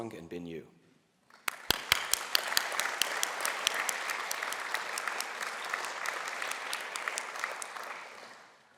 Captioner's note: applause